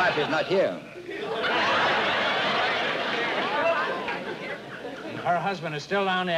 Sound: laughter

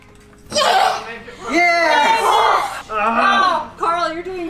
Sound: cheering

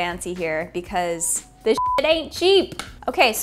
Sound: beep

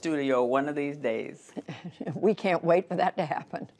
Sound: laughter

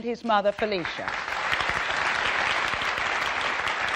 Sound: applauding

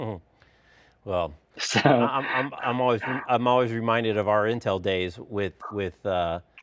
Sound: laughs

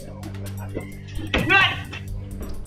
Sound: pat

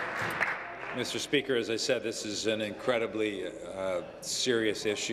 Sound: applause

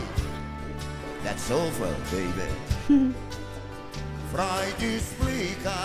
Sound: chuckles

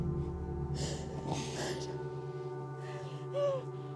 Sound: soft cries

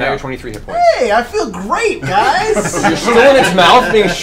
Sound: all laugh

